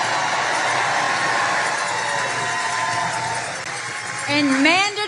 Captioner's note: applause